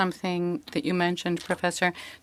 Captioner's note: speaking French